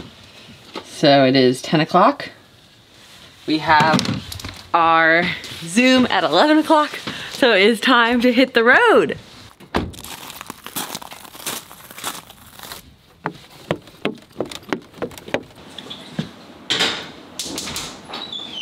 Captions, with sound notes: So it is 10 o'clock. We have our zoom at 11 o'clock. So it's time to hit the road. (footsteps)